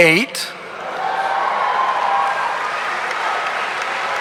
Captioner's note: audience cheering